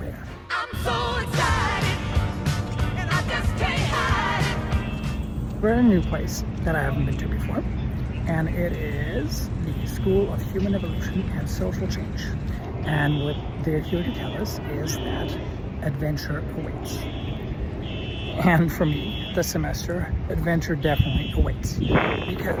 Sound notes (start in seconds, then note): 4.7 fire alarm blaring